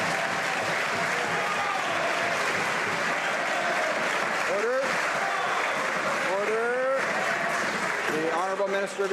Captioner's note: some Applause